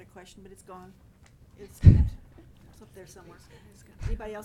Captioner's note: laughing